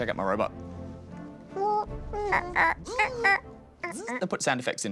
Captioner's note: both make squeaking sounds